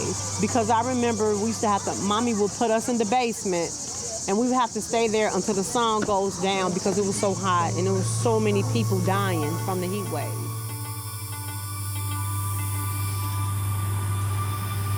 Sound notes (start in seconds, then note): 9.1 electrical hum